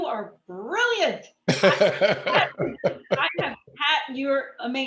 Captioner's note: laughs